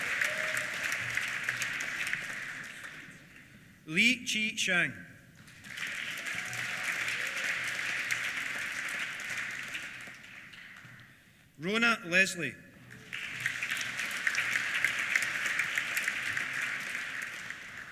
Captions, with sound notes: Lee Chih-Hsiang. (CHEERS) (APPLAUSE) Rona Leslie. (APPLAUSE)